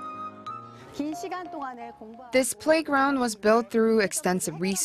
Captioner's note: Korean